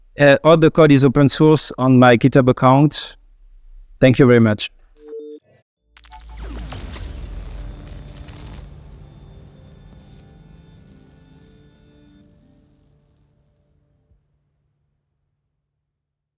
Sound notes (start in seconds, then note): 5.9 futuristic blips